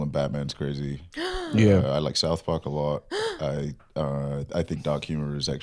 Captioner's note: gasps